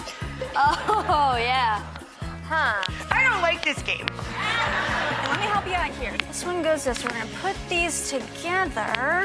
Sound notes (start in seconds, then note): 4.3 laughing